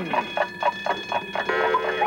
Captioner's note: ringing; cuckoo